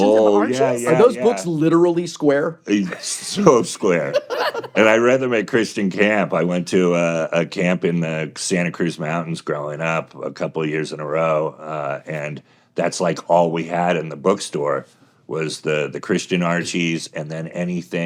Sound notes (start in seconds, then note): 2.8 hosts laughing